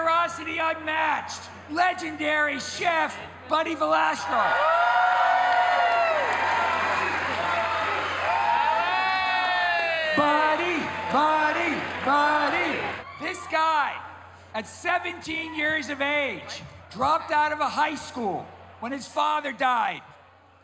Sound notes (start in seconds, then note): 4.8 crowd cheers; 8.2 all chant